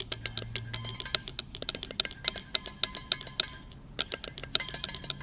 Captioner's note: clattering sounds continue